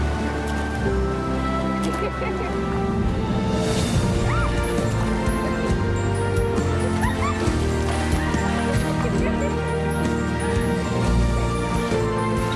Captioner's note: giggling, water splashing